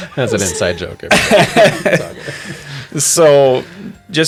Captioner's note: laughter